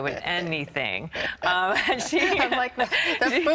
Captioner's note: laughter